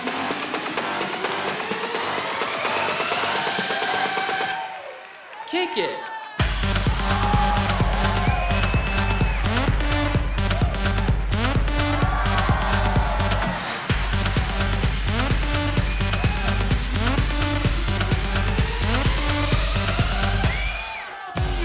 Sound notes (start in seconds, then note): 11.5 cheering